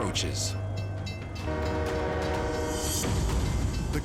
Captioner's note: bell dinging; train horn blaring